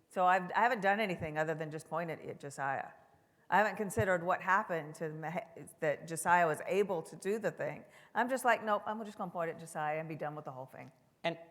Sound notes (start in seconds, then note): none